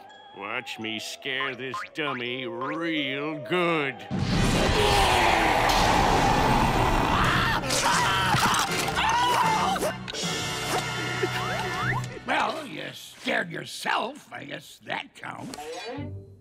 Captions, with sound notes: Watch me scare this dummy real good. [yelling] Well, you scared yourself. I guess that counts.